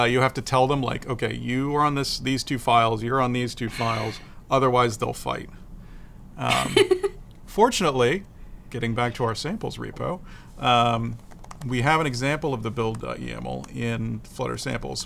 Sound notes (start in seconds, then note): 6.5 laughs